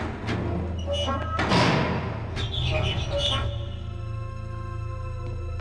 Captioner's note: hinges squeaking; ominous music